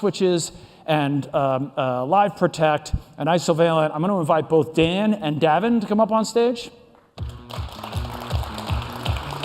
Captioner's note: applause